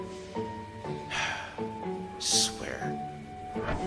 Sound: sighs

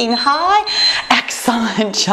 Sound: timer beeping

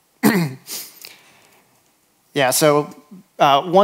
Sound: clears throat

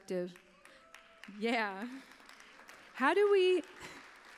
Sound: applause

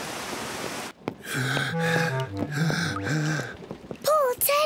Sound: breathes heavily

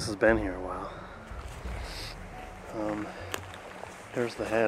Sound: sniffles

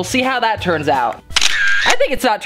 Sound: camera shutter

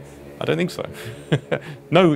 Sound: laughs

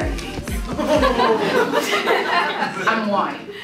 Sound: group laughs

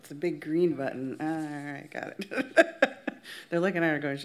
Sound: laughs

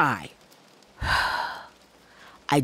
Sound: breathes

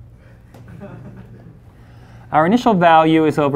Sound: class laughs

